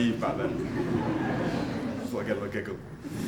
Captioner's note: audience laughing